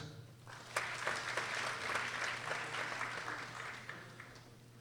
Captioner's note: people applauding